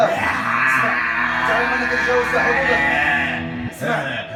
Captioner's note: Jinn grunts